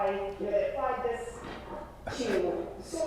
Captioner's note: paper rustling